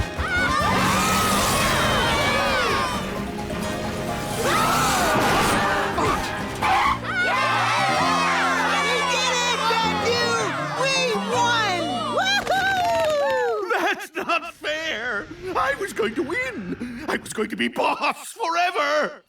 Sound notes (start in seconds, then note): 1.7 cheering